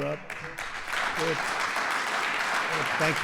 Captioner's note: applause